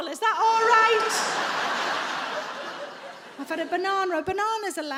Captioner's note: audience laughs